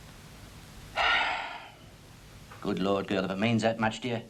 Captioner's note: heavy sighing